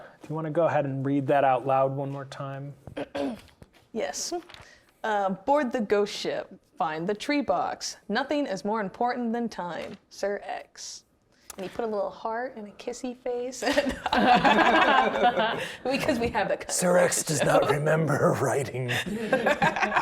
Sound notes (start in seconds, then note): 3.0 clears throat; 13.7 chuckles; 13.7 players laughing